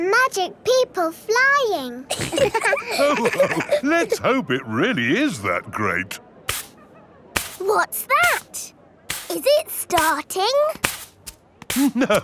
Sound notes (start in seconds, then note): 2.1 all laughing; 6.5 brushing